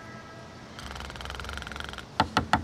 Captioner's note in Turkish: Horluyor